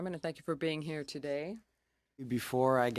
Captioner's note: speaking French